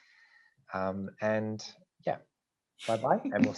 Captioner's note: chuckles